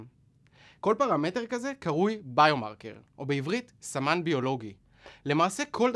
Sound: repeated in Hebrew

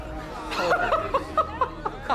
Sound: indistinct chatter; laughing

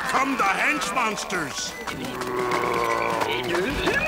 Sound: all growling

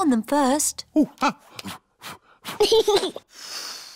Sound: blows; giggles and blows

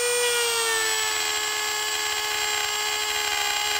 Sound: whirring of the machine

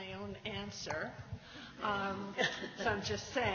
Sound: light laughter

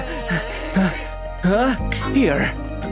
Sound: sighs

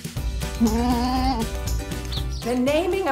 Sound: goat bleats

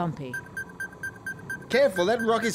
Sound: alert signal

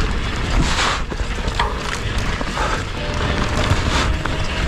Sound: breathing heavily

